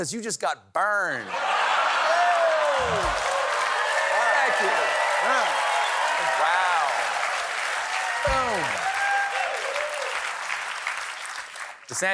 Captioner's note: cheers and applause